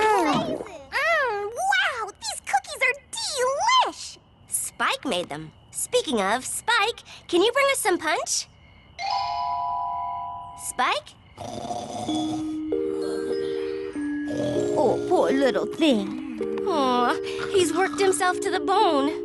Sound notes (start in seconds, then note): 0.1 gulp!; 8.9 poink!; 11.4 snoring